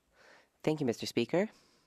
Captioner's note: speaking French